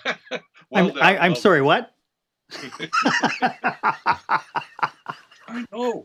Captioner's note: laughs